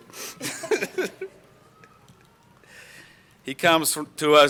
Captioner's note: laughter